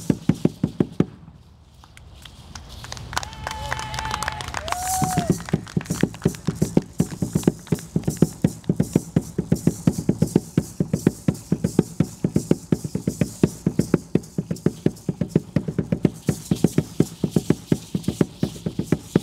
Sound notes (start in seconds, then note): 2.8 audience applauding and cheering; 5.6 drum beating and rattles sounding